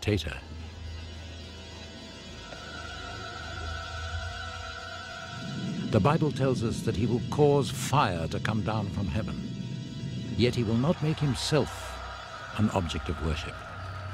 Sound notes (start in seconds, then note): 10.4 crowd cheering and applauding